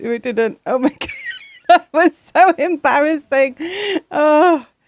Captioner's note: laughing